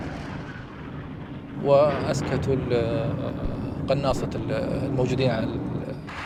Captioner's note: speaking in Arabic